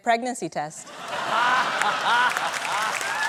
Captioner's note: laughter